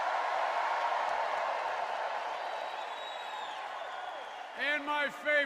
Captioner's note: cheers and applause